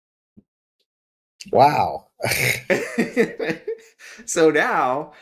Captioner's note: laugh